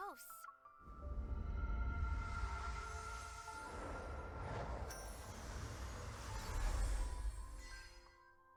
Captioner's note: magical sound effects